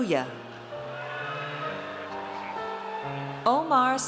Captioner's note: audience cheers